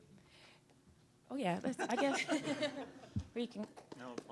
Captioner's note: panelists laughing